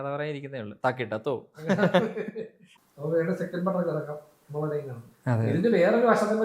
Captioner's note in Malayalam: പൊട്ടിച്ചിരി